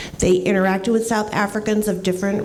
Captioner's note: none